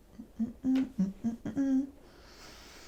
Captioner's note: humming